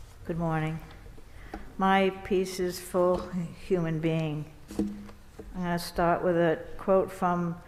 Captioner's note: none